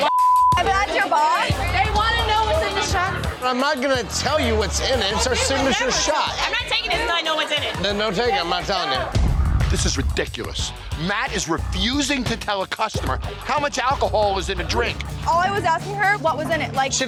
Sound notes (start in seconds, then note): 9.1 booming sound effect